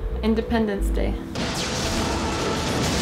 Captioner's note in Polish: trzask